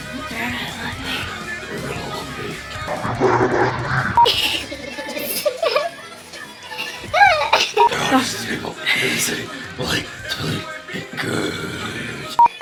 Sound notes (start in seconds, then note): 0.0 growls; 0.3 whispers; 3.0 voice changer; 8.0 growls